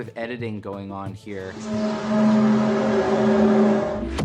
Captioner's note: groaning sound